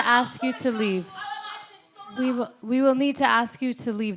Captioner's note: woman screaming